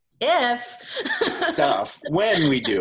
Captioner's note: laughs